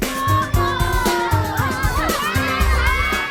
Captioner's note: jazz music; cheering